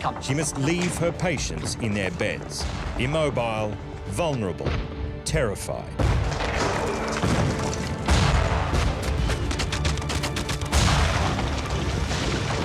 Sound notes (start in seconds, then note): 6.0 explosions and gunfire